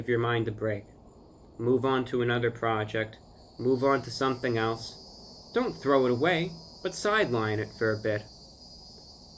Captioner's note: cicadas begin to sing